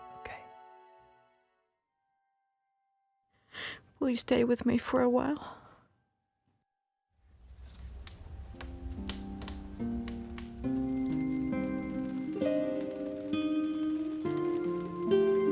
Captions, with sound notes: Okay? Will you stay with me for a while? [romantic music] [fireplace crackling]